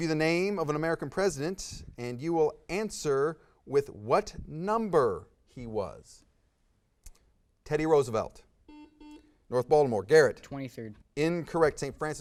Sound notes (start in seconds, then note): 8.7 buzz